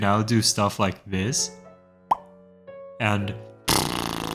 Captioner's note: pop